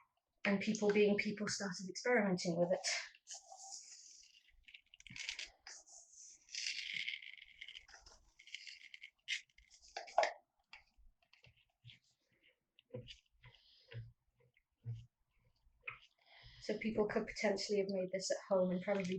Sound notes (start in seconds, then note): 4.3 pouring and stirring